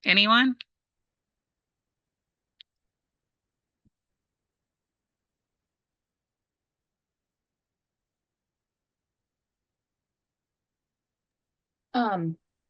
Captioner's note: silent